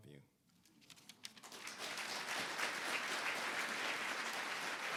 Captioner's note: audience applauding